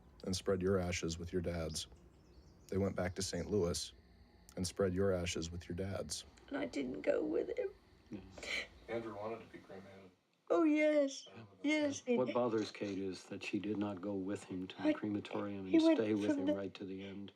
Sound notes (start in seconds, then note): 6.7 crying